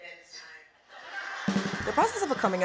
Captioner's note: audience laughing